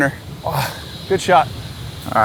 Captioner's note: gasps